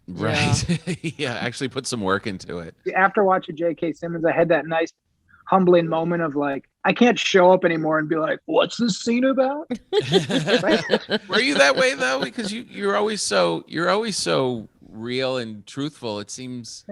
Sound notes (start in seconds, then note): 9.7 all laughing